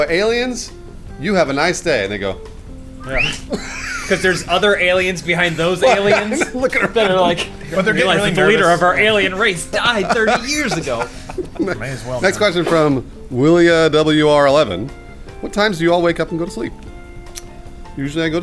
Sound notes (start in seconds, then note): 3.0 whistling; 11.1 laughing